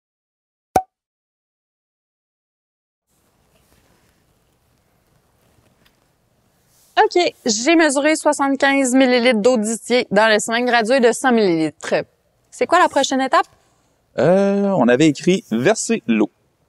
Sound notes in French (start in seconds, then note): 0.7 Pop!